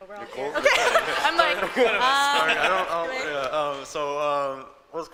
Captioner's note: people laughing